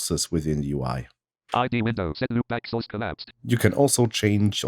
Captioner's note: automated voice